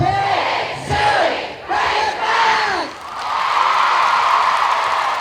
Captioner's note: applause